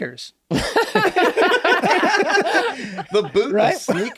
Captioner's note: laughing